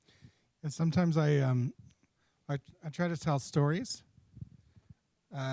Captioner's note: voiceover